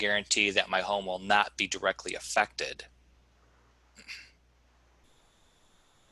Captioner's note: clears throat